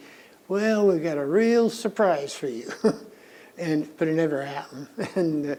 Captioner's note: laughs